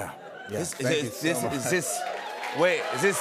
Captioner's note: cheers and applause